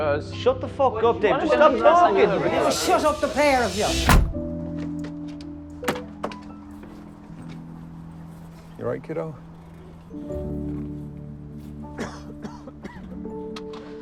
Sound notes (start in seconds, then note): 2.5 car door closes; 12.0 man coughing